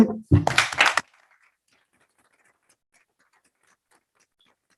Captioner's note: group applauding